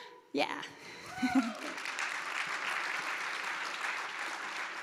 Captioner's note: audience applauds